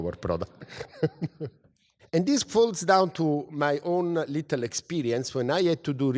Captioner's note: laugh